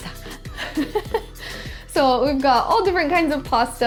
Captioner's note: laughs